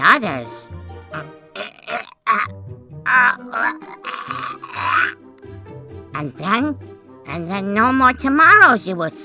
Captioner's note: choking sounds